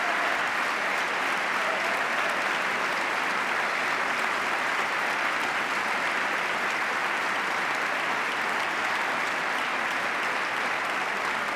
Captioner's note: applause